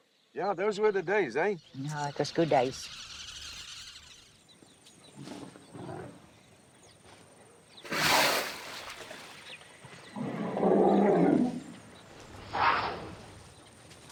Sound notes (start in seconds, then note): 10.1 growling